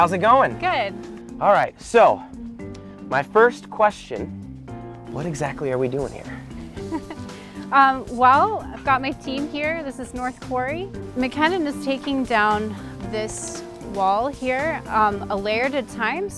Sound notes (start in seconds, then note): 6.6 chuckles